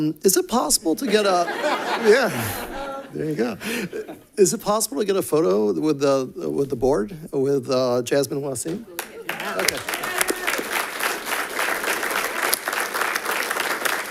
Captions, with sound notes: Is it possible to get a yeah, there you go. Is it possible to get a photo with the board with Jasmine and Waseem? (audience clapping)